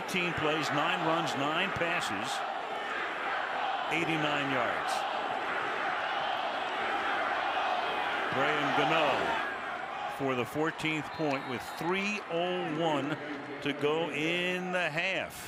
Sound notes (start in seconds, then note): 5.6 crowd chanting